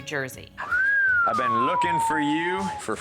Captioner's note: whistling